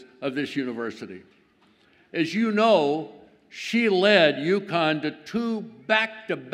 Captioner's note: none